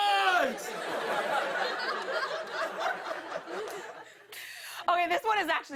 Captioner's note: laughter